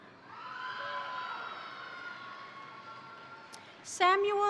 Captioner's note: crowd cheering; crowd applauding